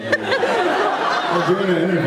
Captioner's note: laughs